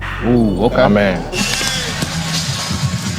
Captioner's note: groans